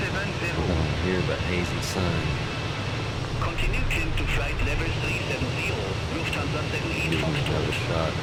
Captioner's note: radio chatter